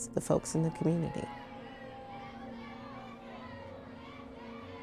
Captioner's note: crowd shouting